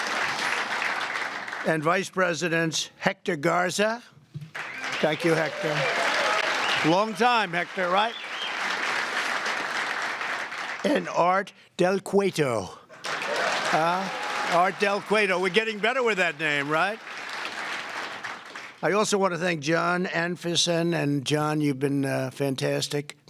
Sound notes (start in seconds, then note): 4.5 applause